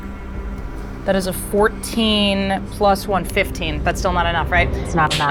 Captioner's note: die rattling